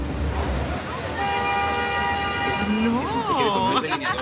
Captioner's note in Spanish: Ruido del tránsito; Risas